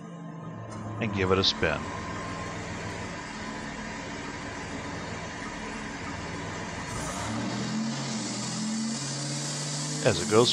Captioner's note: engine & spinning noise